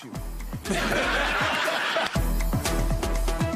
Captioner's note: audience laughing; upbeat music